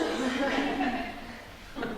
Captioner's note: laughter